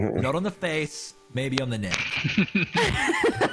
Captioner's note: all giggling; chuckles